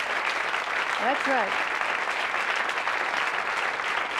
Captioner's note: applause cont; applause fades